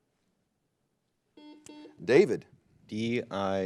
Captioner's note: buzzer blares